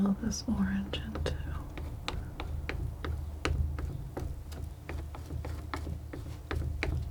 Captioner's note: scratching